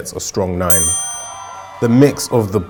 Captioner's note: bell ringing; cheering